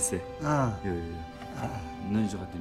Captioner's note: speaking Tibetan; both laugh; speaking Tibetan